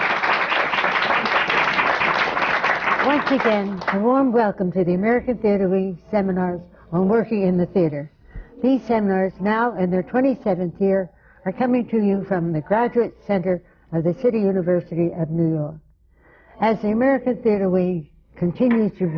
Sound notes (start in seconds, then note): 0.0 applause